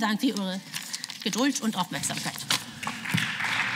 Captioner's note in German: Beifall